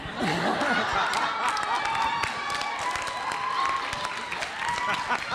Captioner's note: audience laughing; audience cheering; audience applauds